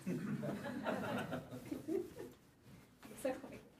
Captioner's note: laughter